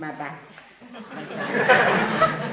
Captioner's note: laughter